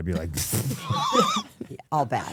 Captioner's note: crew members laughing